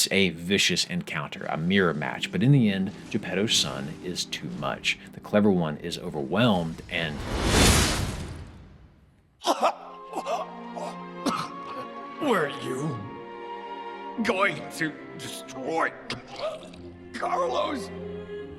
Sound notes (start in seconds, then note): 7.7 severe coughing